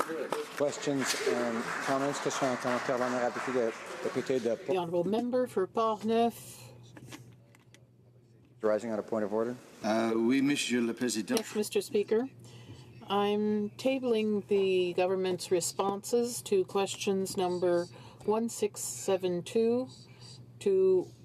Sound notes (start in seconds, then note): 5.0 some Applause; 7.5 speaking French